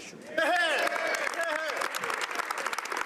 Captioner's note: applause